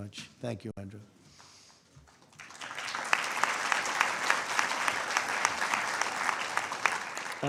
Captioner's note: applause